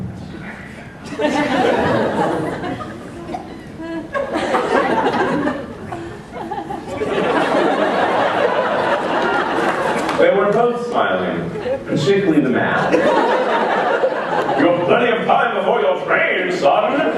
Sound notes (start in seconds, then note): 10.8 laughter